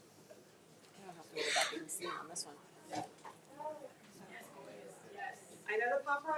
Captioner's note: faintly speaking